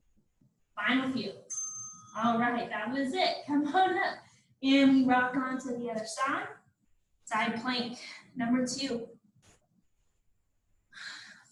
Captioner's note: ding